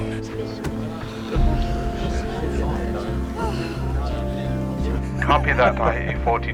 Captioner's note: sighs of relief